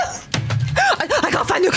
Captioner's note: banging desk